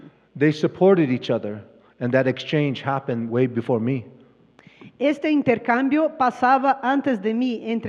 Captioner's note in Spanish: Expositor habla en inglés